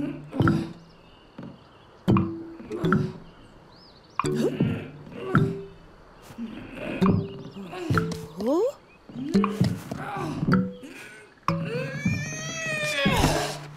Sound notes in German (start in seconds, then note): 0.0 Ächzen; 1.7 Schwere Schritte; 4.3 Ächzen; 9.0 Müdes Krächzen; 11.6 Angestrengte Laute